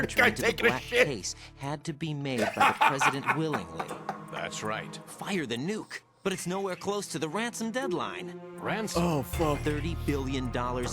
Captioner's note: laughs